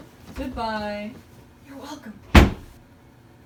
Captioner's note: door slams